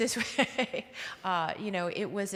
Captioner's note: laughing